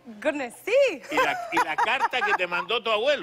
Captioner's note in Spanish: Ríe